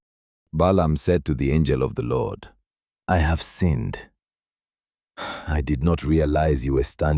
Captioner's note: sighs